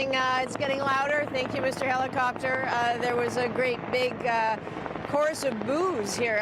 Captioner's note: helicopter overhead